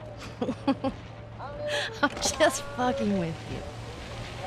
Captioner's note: laughs